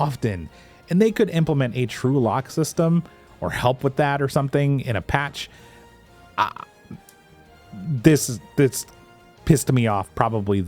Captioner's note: frustration noises